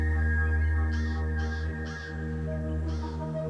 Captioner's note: bird cawing